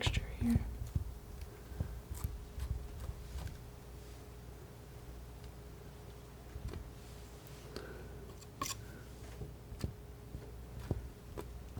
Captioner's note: scratching